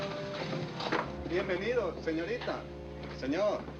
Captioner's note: speaking spanish